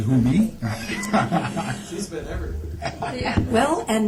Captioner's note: laughter